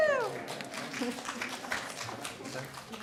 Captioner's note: applause